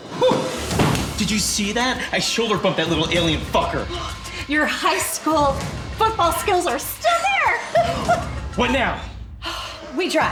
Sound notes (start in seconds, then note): 7.1 laughing